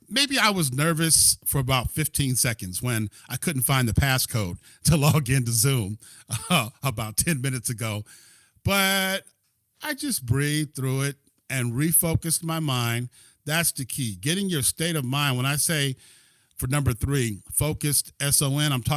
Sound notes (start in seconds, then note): 6.3 laughter